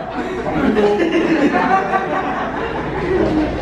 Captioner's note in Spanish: risas